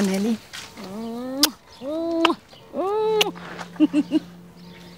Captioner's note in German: Schmatzer